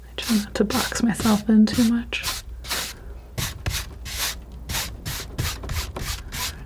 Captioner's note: tapping